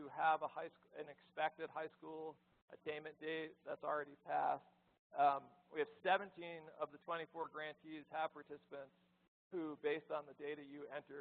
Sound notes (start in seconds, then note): none